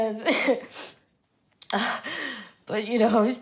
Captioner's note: Coco sniffles